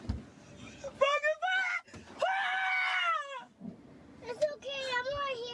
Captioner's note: woman screaming